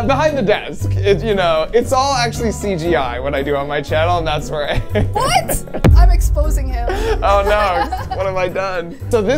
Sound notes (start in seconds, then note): 4.8 laughing